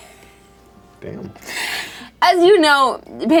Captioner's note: laughs